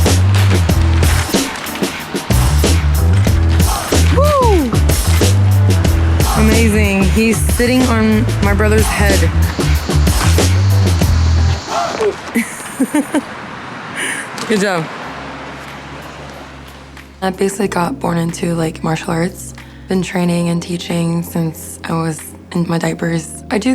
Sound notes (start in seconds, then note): 0.3 upbeat hip-hop music continues; 9.6 upbeat hip-hop music continues; 12.0 laughs